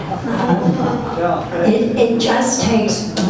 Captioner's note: audience laughs